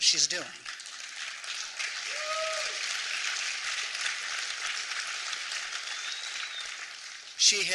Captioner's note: applause